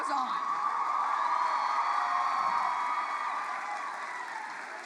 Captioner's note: audience cheers